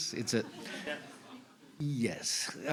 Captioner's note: laughter